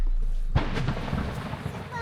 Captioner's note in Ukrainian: віддалений звук вибуху